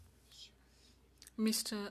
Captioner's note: speaking French